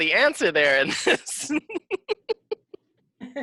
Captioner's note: laughing